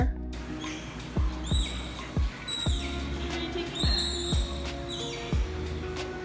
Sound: Taz vocalizing

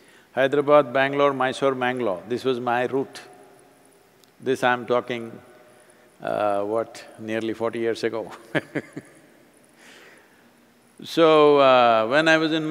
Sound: laughs

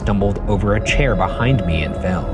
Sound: phone ringing

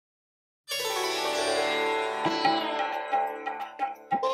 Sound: chimes

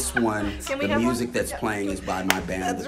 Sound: friends claps

